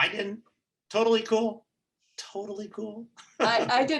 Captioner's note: chuckling